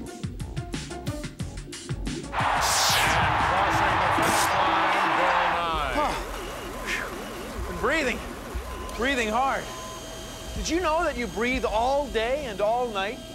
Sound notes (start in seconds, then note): 2.4 crowd cheering; 5.9 sighs, pants